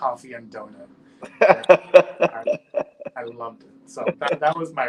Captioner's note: laughs